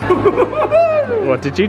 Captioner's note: jubilating